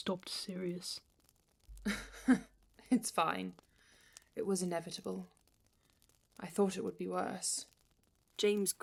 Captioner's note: dry laugh